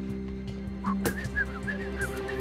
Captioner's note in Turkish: Islık çalar